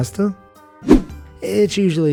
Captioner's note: air whooshing